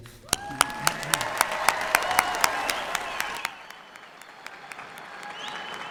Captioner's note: applause and cheering